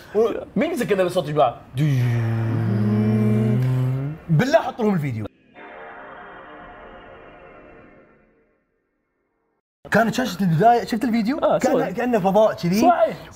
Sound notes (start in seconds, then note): 1.7 attempting PS2 start-up sound; 5.4 proper PS2 start-up sound